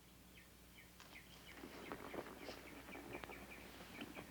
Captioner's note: horses galloping